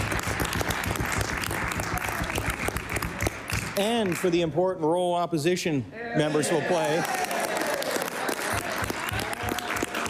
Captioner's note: applause